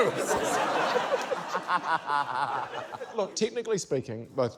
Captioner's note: laughter